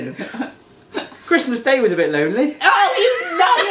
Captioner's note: laughing